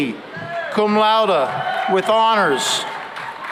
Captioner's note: cheering